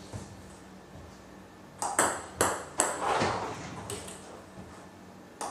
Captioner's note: ball ping pong hitting continues